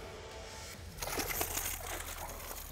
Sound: water splashing

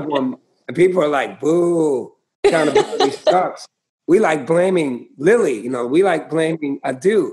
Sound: laughter

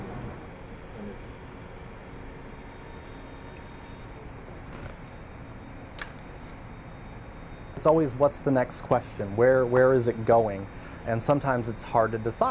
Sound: machine noise

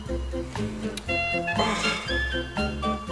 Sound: sighs

